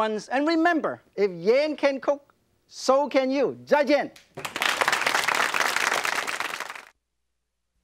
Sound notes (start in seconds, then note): 4.2 audience claps